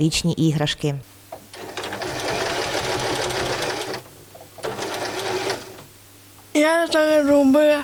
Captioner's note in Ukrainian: звук швейної машинки